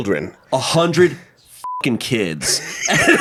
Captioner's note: beep; everyone laughs